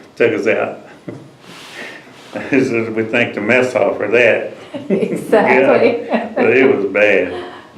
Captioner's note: laughs